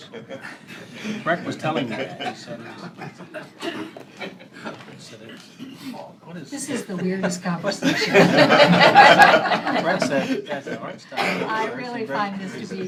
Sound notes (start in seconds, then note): 7.6 laughter